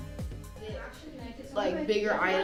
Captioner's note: students chattering